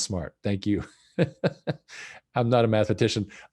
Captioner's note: laughs